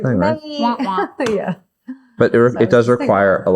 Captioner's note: laughs